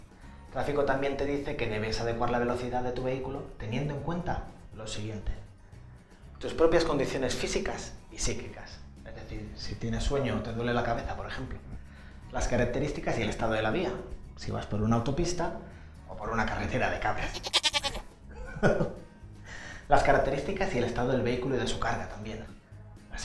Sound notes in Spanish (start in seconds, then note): 17.2 ruido de cabras